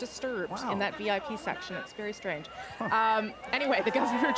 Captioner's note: laughter